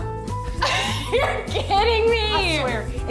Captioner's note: laughs